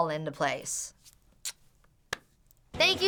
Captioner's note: blowing kiss